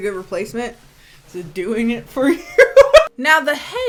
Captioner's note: laughing